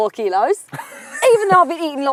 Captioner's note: laughs